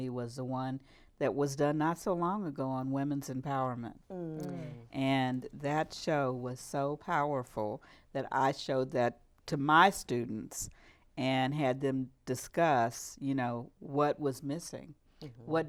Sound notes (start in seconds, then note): none